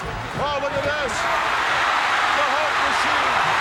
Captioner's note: audience cheering